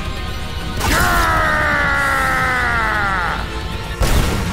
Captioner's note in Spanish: Grita